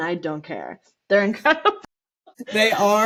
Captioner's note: laughter